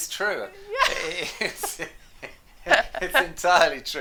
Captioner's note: laughs